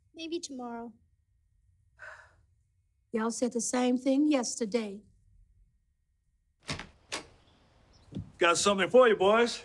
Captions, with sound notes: Maybe tomorrow. [sighs] Y'all said the same thing yesterday. Got something for you, boys.